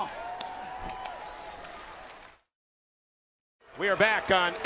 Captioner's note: crowd chatter